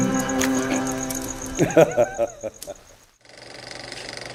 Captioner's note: laughs